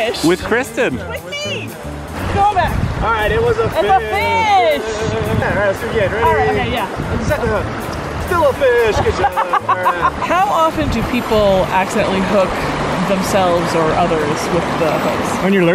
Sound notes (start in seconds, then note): 9.0 laughing